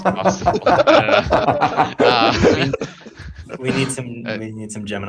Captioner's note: laughter